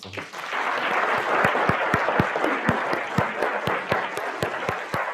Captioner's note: audience applauding